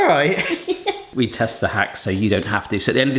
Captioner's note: laughs